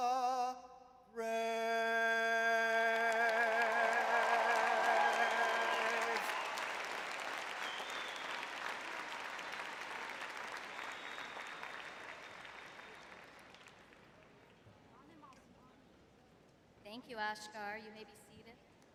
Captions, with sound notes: brave? [audience cheering] [audience applauding] Thank you, Akshar. You may be seated.